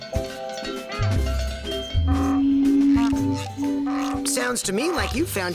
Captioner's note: toot toot